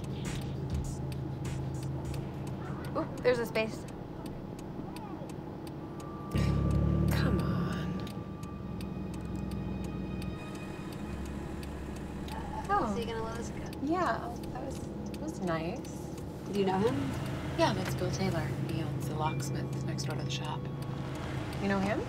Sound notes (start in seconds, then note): 0.2 indicator light ticking; 6.6 sighs